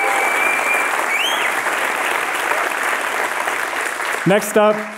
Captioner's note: applause